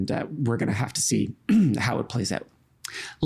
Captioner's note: clearing throat